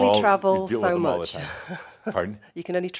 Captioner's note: she chuckles